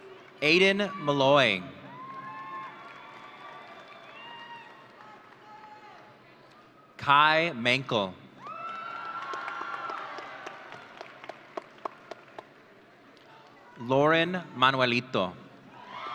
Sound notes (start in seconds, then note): 1.8 audience cheering; 8.4 audience cheering